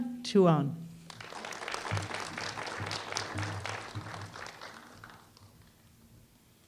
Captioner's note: applause